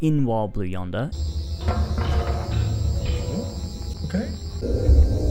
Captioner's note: groaning sound